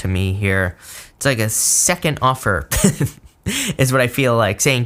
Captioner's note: laughs